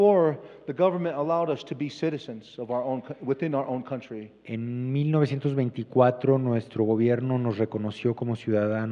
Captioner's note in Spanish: Expositor habla en inglés